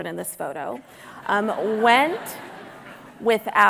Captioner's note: audience laughing